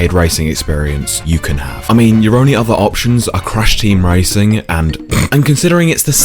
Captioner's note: laugh